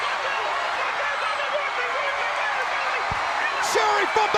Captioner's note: Sherri yelling